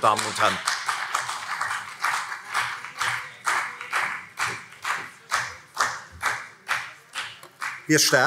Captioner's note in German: Beifall CDU und vereinzelt SPD